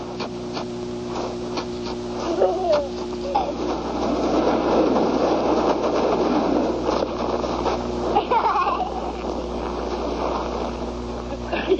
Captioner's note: children laughing